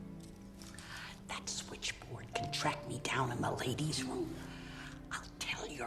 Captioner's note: whispering